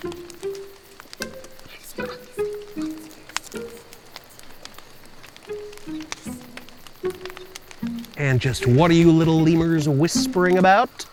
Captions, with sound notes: *whispering* And just what are you little lemurs whispering about?